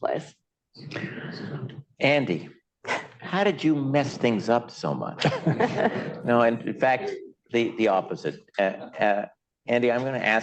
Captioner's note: laughter